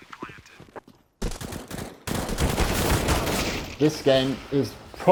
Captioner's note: gun shots